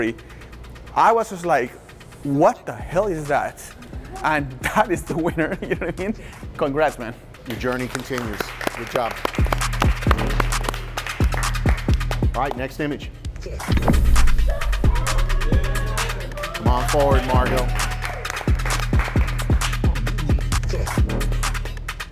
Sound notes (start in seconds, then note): 4.6 chuckles; 9.2 everyone applauds; 14.4 competitors cheering; 18.7 competitors clapping